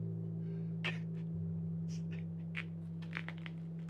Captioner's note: sobbing